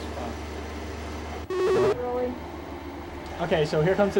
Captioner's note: buzzing/beeping